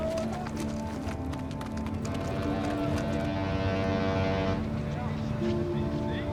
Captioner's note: ship whistle blows